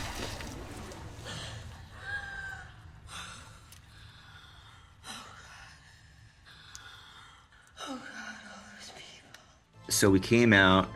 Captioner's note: gasping